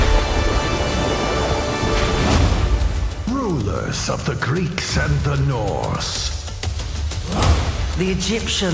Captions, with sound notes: [thunder crashing] Rulers of the Greeks and the Norse...